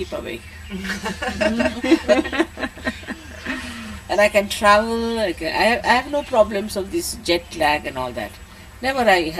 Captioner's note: laughter